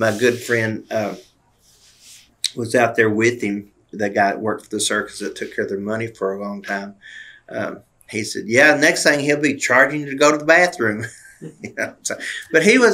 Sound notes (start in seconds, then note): 11.0 laughter